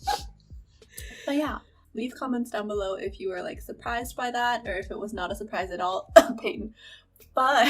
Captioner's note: cough cough